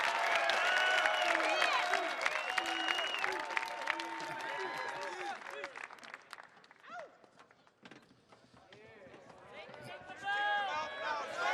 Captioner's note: applause